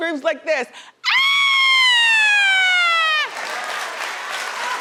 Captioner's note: laughs; screams; audience cheering